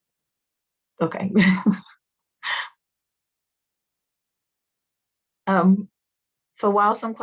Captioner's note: laughter